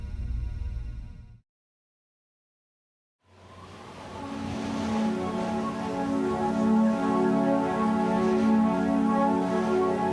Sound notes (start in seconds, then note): 3.3 slow subdued music; 3.4 wind howls